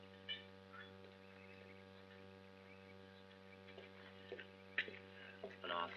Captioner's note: footsteps